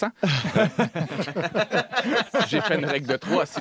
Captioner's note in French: rires